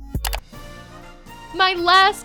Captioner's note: clicking